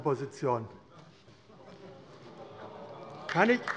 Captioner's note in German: Beifall AfD - Zurufe